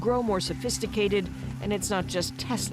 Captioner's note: speaking foreign language